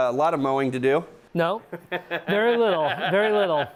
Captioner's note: laughs